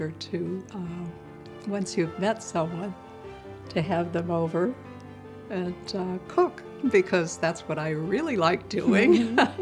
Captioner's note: laughs